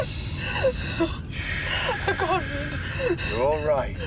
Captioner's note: breathing heavily